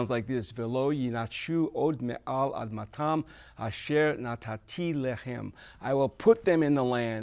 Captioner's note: speaks verse in Hebrew